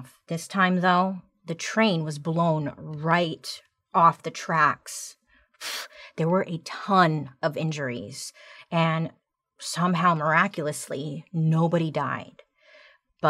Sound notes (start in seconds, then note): 5.6 exhales sharply